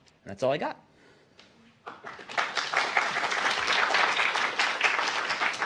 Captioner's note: applause